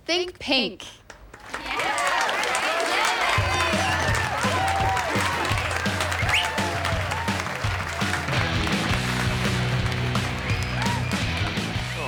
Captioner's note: cheering